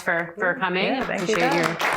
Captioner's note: applause